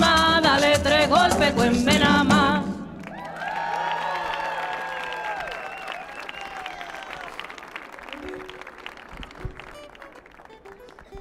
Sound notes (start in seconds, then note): 3.0 audience clapping; 3.0 audience cheering